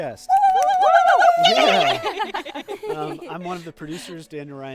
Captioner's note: group cheering